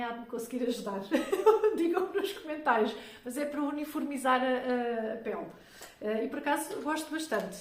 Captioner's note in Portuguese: risadas